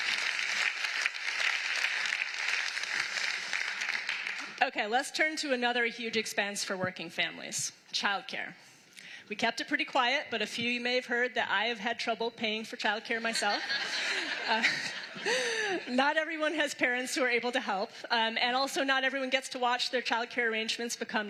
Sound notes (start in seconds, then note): 7.5 applause